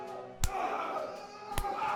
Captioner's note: fists thudding